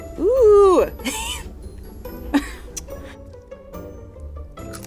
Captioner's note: laughing